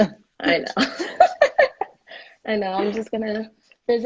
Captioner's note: laughing